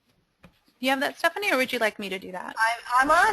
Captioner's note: voiceover